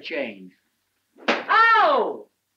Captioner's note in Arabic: صفعة على اللوح